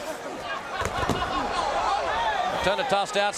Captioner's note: wrestlers thudding